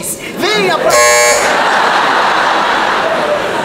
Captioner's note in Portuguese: campainha